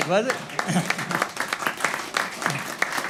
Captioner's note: applause